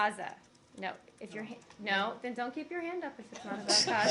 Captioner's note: laughter